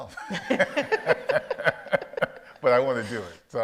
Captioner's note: audience laughs